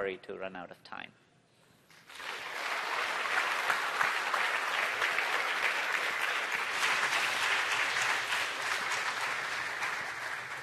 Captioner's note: applause